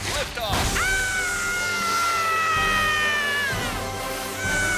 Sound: Cozmo screams

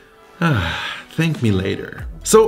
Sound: sigh

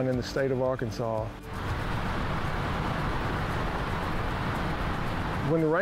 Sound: sound of waterfall

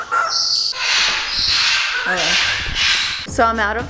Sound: bird squawks

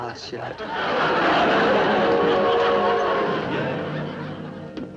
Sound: audience laughs

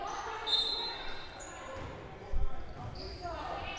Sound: whistle blowing

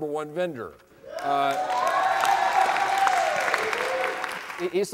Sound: applause

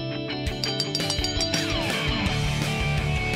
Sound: bell ringing

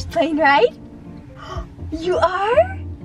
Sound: gasp

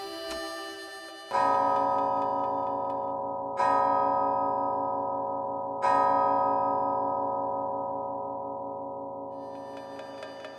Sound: clock tolls

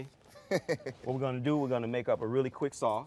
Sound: laughing

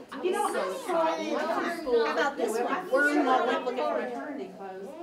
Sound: overlapping chatter

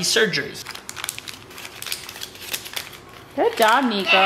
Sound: paper crackling

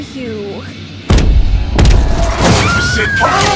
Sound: loud Approaching Footsteps; screams

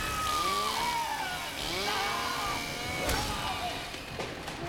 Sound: yells

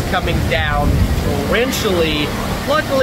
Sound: thunder rumbling

